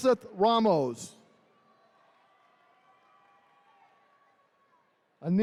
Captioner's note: attendees cheering